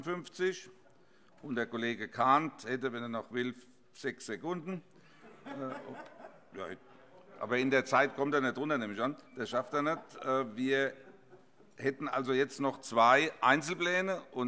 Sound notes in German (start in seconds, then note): 5.1 Heiterkeit